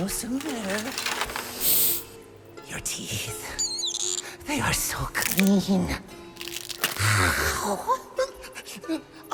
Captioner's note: DEEP sniff